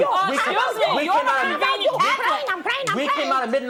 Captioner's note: arguing